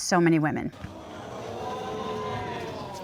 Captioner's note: audience gasping